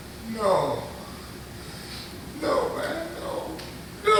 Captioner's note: crying